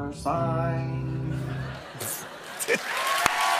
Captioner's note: laughter; cheers and applause